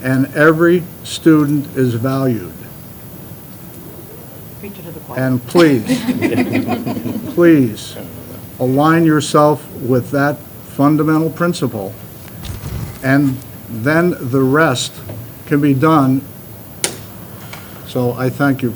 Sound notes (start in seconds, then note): 5.5 laughter